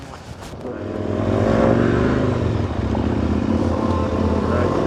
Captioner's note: engines running; upbeat music